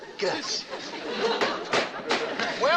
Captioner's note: gavel banging